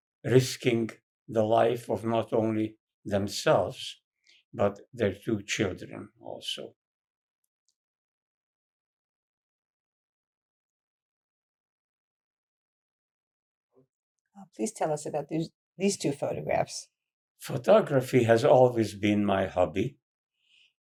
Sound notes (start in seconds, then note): 6.8 pauses 6 seconds